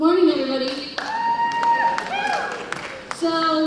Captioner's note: cheers and applause